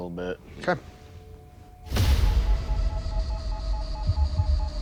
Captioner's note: beeping